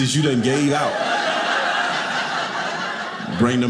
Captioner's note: audience laughing